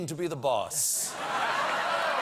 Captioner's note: applause